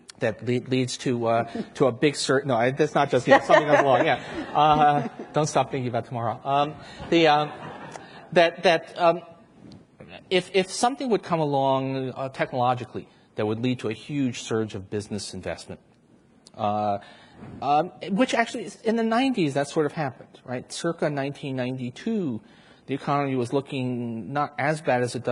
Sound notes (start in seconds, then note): 3.3 everyone laughs; 6.9 audience laughs